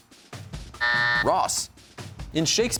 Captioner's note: buzzer sounds